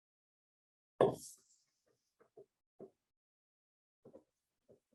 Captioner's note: chalkboard taps loudly